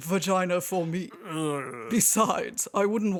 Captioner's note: sound of Hux squirming